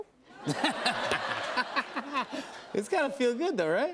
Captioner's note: laughter